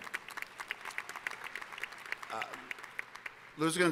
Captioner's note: applause